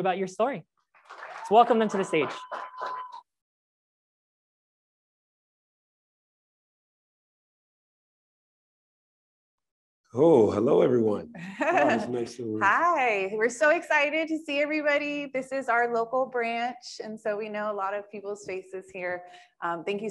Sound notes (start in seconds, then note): 0.9 crowd applauds and cheers